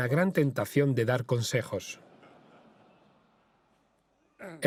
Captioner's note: audience laughing